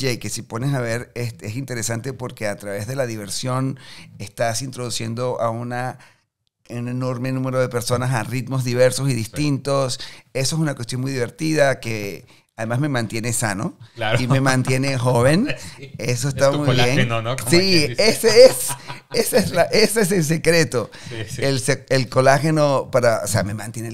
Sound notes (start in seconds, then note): 15.2 laughing in Spanish